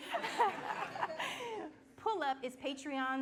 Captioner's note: laughing